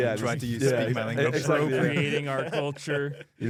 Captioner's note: laughs